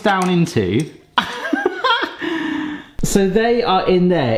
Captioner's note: laughs